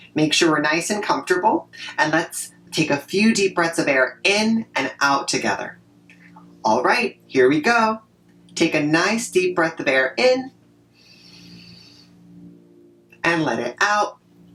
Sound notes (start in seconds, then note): 11.0 inhale